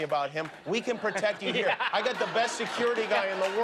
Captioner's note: light laughter and applause